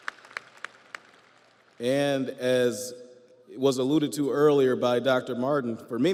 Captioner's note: audience applauds